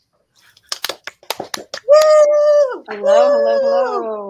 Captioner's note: everyone applauding